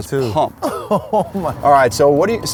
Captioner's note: laughs